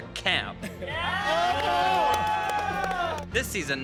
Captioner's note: group cheering and clapping